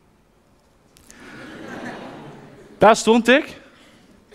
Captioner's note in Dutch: Gelach